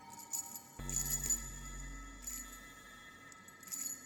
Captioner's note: chains chinking